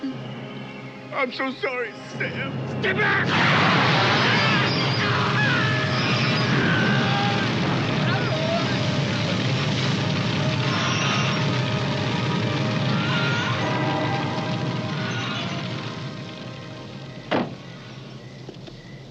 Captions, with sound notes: - I'm so sorry, Sam! - Stay back! [whoosh] [screaming, flames rumble]